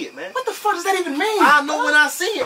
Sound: TV playing in the background

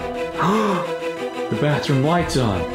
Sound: gasps

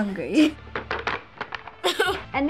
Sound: tapping bag; chuckling

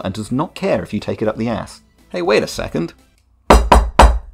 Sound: knocks on church

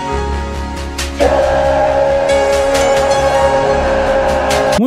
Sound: Polar Bear dog-thing screams as the MeeM TeeM Force captures the cunt

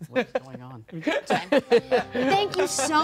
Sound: laughing

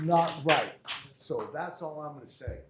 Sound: applause

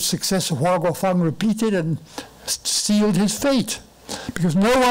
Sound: foreign language

